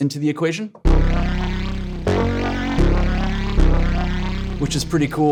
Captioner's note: electronic tones sounding